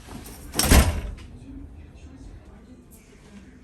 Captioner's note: door slams